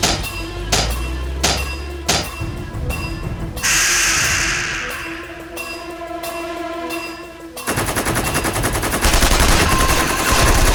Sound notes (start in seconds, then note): 3.7 beast shrieks; 9.0 tank gun blasting